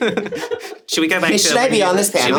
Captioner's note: everyone laughs